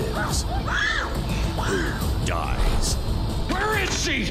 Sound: screams

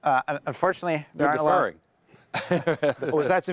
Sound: laughs

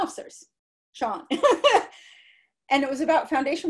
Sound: laughter

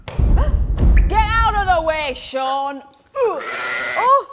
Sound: sheep cries out

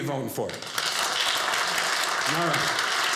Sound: audience cheering

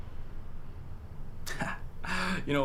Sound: laughs

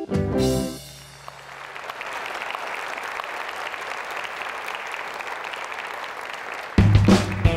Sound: applause

